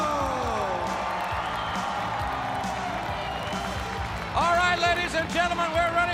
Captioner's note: crowd cheering